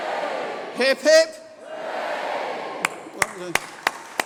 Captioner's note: applause